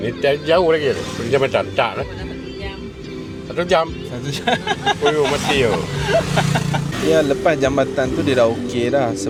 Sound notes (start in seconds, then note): 4.1 laugh